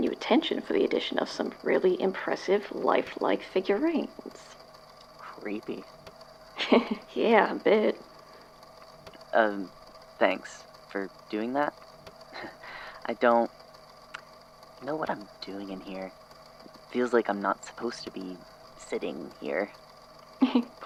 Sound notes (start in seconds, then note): 12.3 laughs uncomfortably